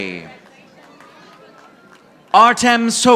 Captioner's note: audience applauding